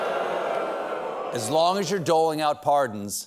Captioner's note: booing